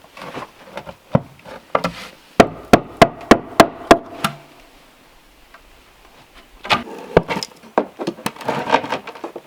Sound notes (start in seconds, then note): 2.4 hammering